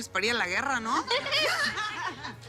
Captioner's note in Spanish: Risas